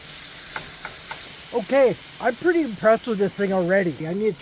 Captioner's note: water running